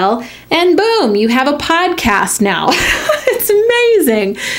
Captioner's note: laughs